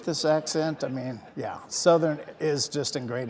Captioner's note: audience laughing